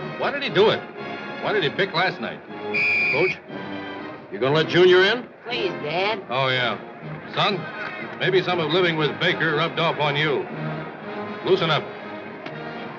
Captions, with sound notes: Why did he do it? Why did he pick last night? [ Whistle tweets ]Coach, you gonna let Junior in? Please, Dad. Oh, yeah. Son, maybe some of living with Baker rubbed off on you. Loosen up.